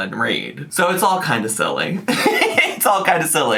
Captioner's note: laughs